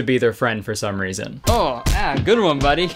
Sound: fists thudding

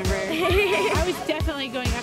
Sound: laughing

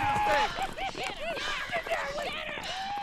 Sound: men whooping

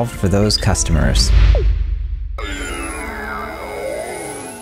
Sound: air whooshing

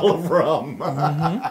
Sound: laugh

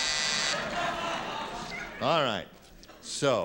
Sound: laughter

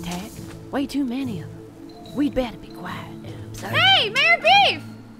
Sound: whispered

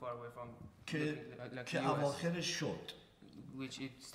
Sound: speaking in farsi

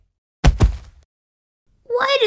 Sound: thud!

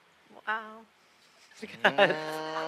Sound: laughter

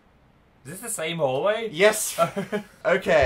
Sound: exasperated laugh

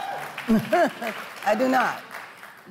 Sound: audience applauds

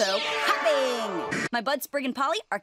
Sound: static

